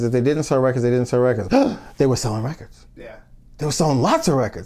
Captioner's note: gasps